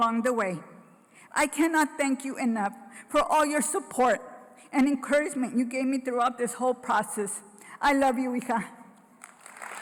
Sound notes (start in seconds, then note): 7.9 foreign language; 9.2 applause